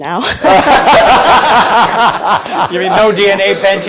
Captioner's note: people laughing